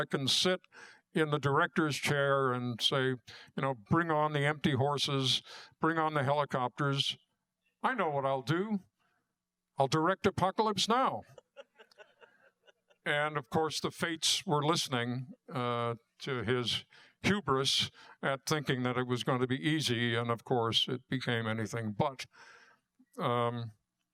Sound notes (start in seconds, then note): 11.2 laughter